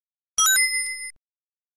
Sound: ding!

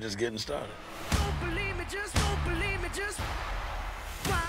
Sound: crowd cheering

